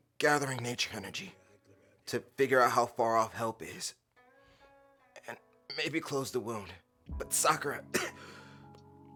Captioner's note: coughs